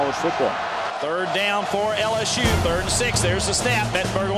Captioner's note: voiceover